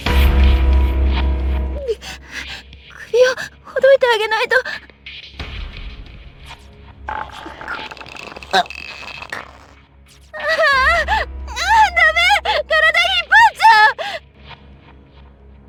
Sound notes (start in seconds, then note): 2.9 moan; 7.1 choking